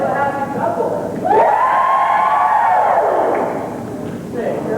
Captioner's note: whooping, cheering